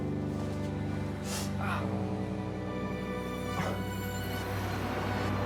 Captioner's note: wincing in pain